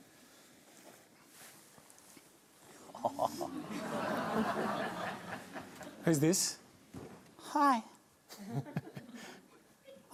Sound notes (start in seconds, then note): 4.5 laughter